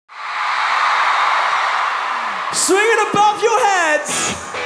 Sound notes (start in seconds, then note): 0.1 crowd cheers; 4.0 guitar plays